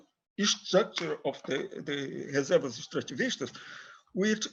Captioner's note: speaks in foreign language